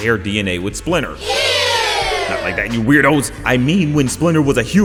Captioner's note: sound clip of crowd going ew